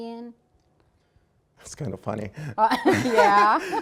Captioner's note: laughing